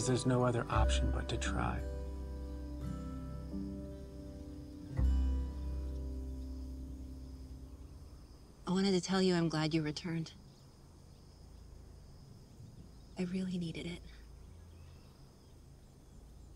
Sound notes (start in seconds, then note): none